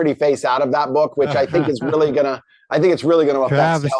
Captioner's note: chuckles